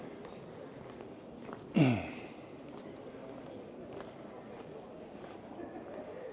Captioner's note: clears throat